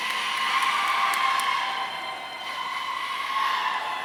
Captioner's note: audience cheering